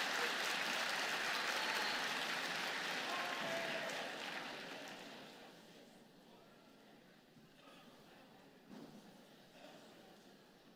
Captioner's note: applause